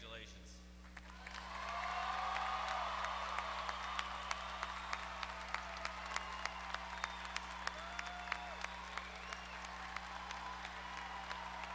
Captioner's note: applause